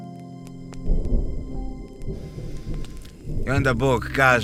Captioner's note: thunder